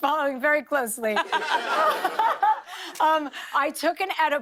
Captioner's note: laughter